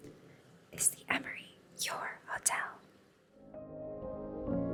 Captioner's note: whispers